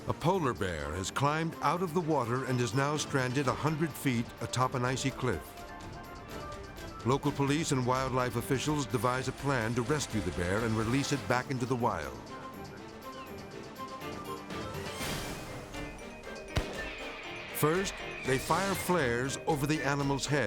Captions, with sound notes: A polar bear has climbed out of the water and is now stranded 100 feet atop an icy cliff. Local police and wildlife officials devise a plan to rescue the bear and release it back into the wild. (intense orchestral music) (flare gun fires) First, they fire flares over the animal's head